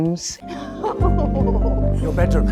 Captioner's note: Isabella chuckles